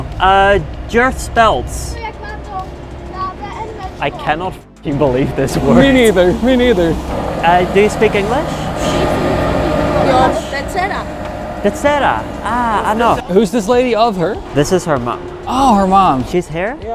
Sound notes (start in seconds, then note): 2.4 child speaking in foreign language; 9.4 people chattering